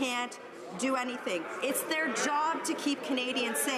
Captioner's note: none